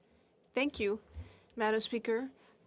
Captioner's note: speaking in French